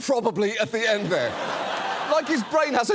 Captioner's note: studio audience laughs